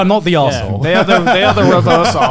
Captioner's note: laughs